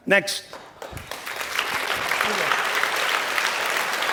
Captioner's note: applause